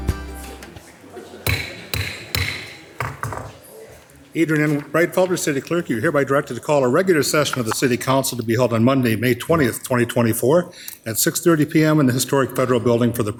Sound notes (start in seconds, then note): 1.4 gavel banging